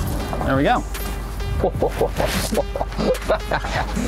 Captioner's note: cranking and click